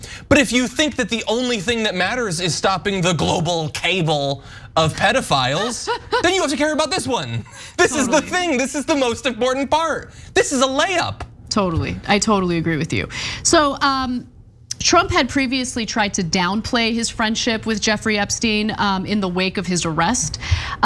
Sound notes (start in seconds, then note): 5.4 laugh